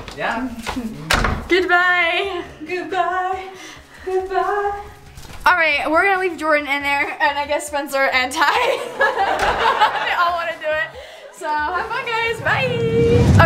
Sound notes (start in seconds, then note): 8.6 crowd laughs